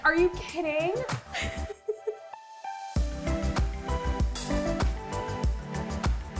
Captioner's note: upbeat pop music; laughs